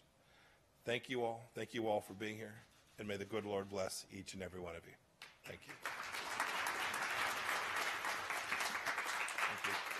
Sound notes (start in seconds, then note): 5.4 applause